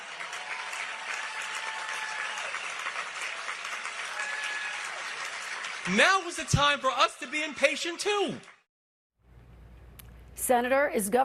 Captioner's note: applause